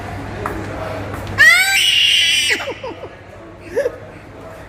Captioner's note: baby sounds